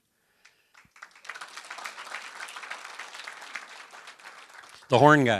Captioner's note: applause